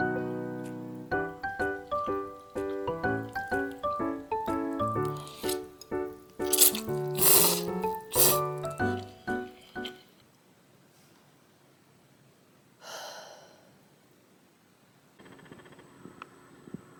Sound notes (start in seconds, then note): 6.4 storm-style noodle slurp